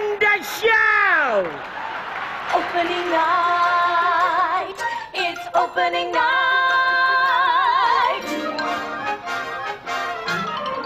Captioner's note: screaming